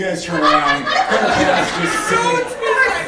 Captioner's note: laughing